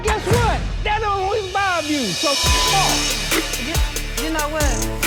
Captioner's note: beeping